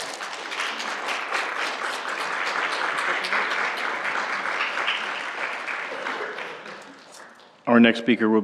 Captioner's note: applause